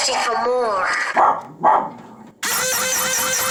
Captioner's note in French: Aboiement de chien; la pompe grince